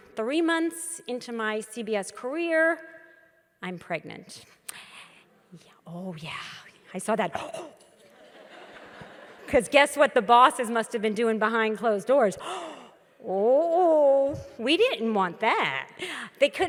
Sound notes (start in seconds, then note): 8.1 audience laughs